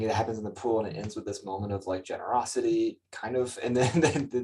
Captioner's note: chuckles